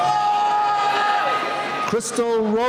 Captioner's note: cheering